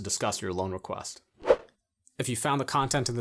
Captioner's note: air whooshing